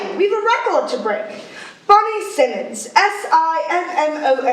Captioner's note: none